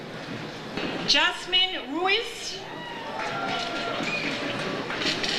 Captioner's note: audience cheers